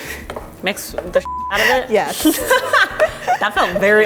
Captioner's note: beep